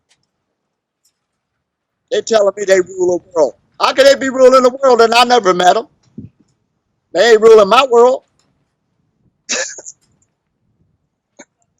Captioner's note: laughs